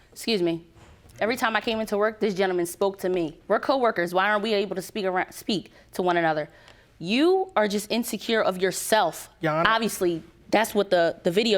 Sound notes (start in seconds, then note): none